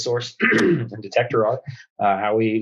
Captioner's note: clears throat